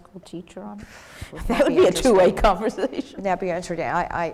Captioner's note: laugh